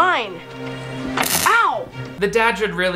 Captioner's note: door handle buzzing